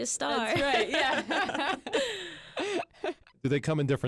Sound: group laughs

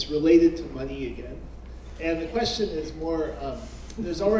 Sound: laugh

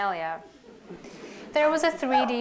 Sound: laughter

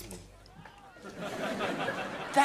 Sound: laughing

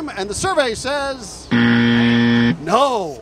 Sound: buzzer

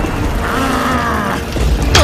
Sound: grunts

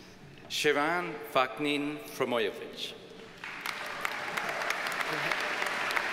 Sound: audience cheers and applauds

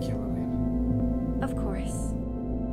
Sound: soft chime

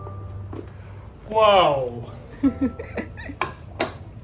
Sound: laughing

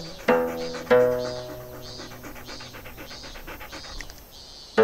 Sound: dog panting

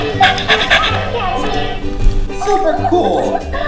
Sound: dog panting

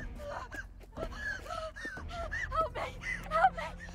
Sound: climactic music; woman breathes heavy

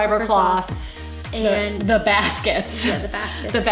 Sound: laughs

